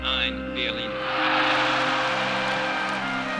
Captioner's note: cheering